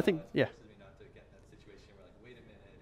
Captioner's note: voiceover